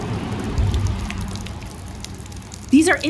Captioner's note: dripping water and traffic sounds